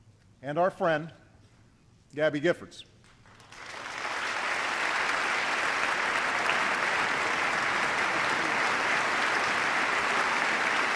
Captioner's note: applause